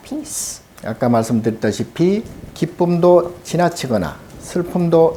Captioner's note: speaking Korean